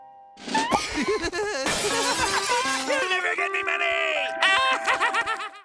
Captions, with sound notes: [laughing] You'll never get me money! [laughing]